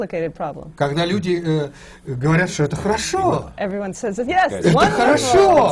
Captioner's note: foreign language not transcribed